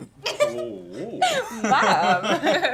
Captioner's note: Rachel laughing